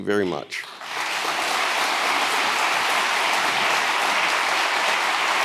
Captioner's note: audience applauding